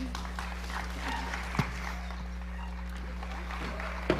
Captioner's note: applause